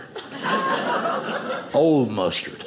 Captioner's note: audience laughing